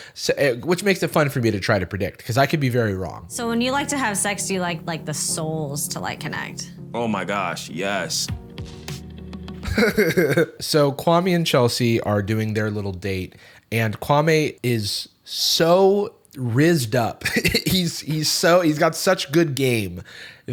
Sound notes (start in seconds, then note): 9.6 laughs; 17.2 chuckles